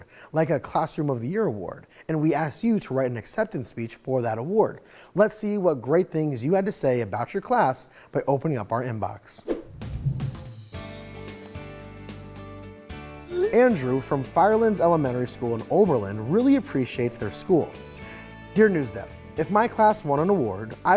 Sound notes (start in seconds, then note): 9.4 air whooshes; 11.4 cursor clicks